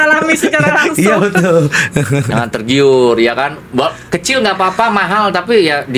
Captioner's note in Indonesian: tertawa